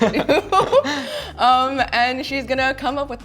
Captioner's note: laughing